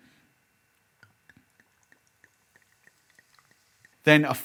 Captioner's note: liquid pours